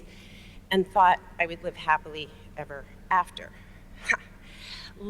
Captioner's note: scoffs